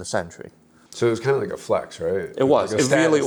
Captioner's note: pat